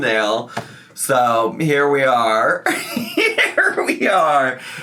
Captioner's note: laughs